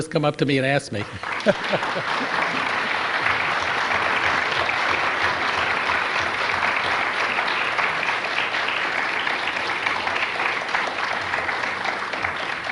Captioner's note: applause